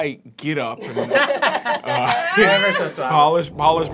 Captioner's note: laughter